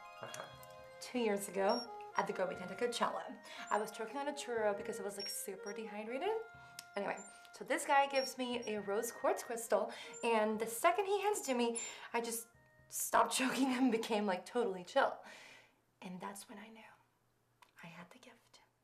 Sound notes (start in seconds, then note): 6.4 beeping